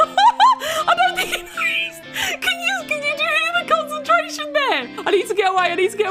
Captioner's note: laughter; wheeze